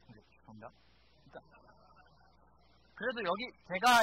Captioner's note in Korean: 웃음